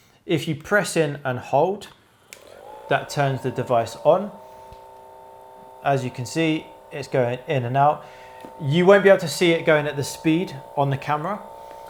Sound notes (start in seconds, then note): 4.2 massage gun whirring